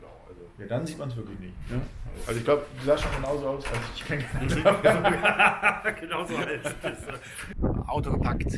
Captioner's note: laughs